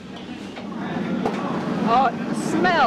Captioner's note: ambient kitchen noise